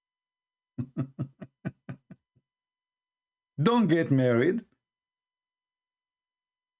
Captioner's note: Ketawa